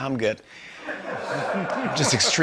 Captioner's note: laughter